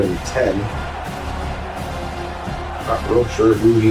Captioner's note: crowd Noises